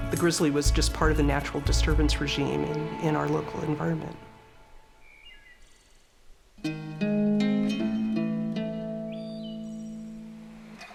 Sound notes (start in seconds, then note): 4.2 birds chirping; 6.6 acoustic music